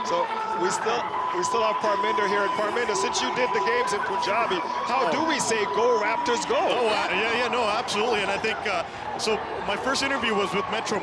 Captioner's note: cheering